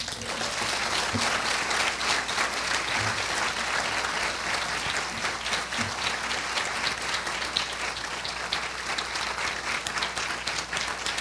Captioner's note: applause